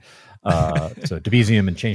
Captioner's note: laughs